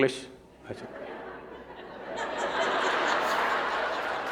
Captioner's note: laughter